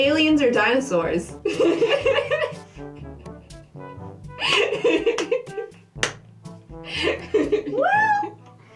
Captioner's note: laughter